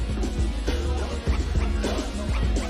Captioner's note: men chanting